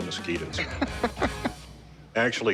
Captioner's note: laughs